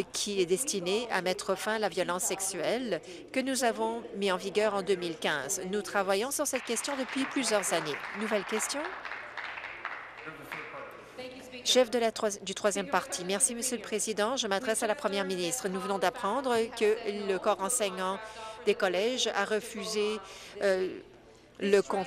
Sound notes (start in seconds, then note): 10.0 applause